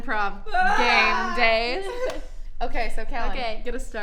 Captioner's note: gasps